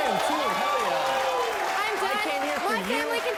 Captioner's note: audience clapping